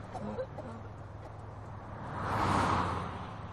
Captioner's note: coughing